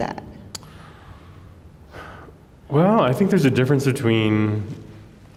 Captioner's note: sighs